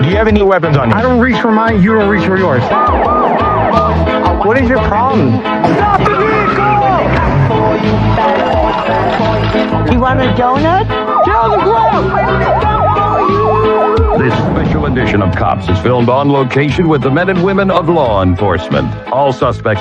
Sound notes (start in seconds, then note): 1.8 sirenen wailing wailin; 8.1 singigingng; 12.4 siningiging